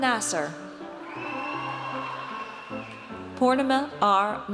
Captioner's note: audience cheers